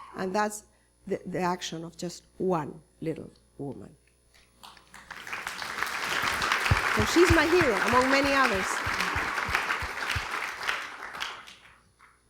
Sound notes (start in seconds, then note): 4.7 applause